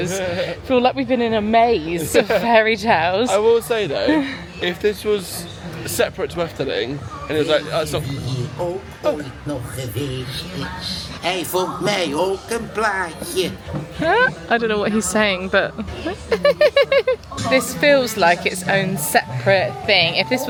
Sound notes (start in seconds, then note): 0.3 chuckling; 9.0 tree speaking in foreign language; 15.7 laughing